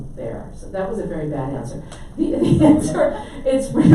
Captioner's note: laughs